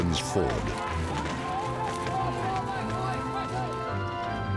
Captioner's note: soldiers shouting